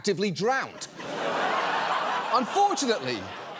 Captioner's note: studio audience laughs